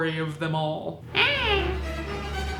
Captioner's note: creepy baby cry; fast violin music